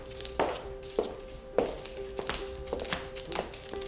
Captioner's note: soft piano playing; footsteps